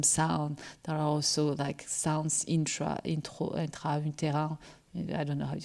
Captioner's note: speaking french